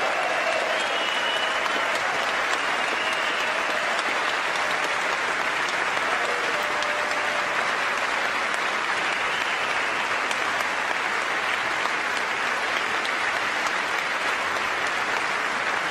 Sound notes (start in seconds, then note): 0.0 applause; 2.5 cheers